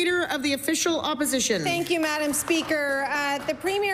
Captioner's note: applause